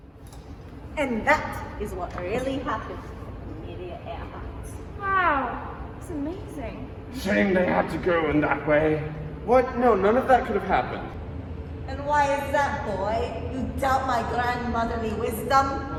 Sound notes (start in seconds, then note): none